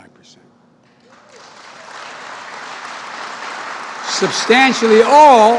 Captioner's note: applause